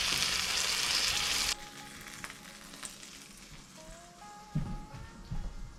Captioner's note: sizzling